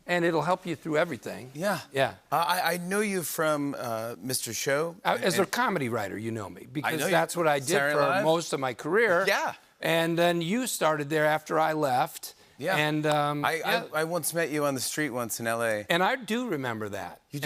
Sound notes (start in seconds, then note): none